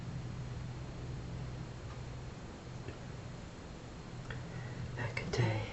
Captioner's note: foregin language